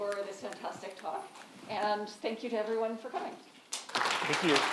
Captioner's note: audience applauds